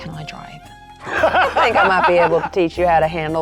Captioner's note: players laughing